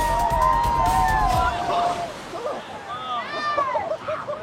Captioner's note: group whooping; water splashing; group laughing